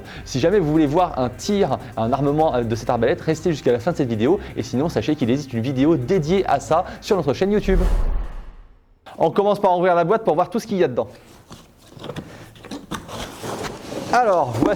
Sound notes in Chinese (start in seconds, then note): 8.0 英语